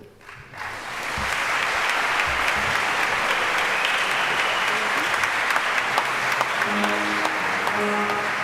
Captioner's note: applause